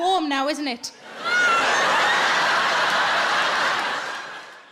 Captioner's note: audience laughs